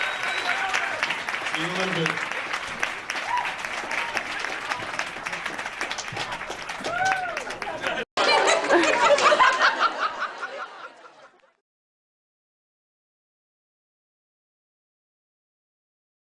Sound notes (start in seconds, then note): 0.0 audience cheers and screams; 2.1 audience cheers